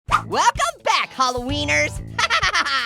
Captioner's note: laughing